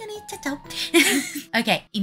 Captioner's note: nervous laugh